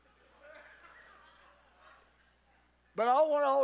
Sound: congregation laughs

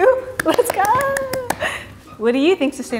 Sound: clapping

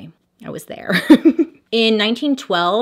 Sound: laughs

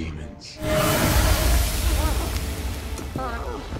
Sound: Belial screams

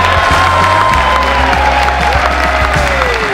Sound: applause from the crowd

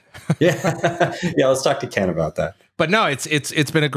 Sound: laughs

